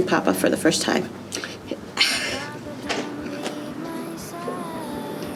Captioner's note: sobs